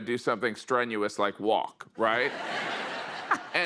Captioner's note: laughter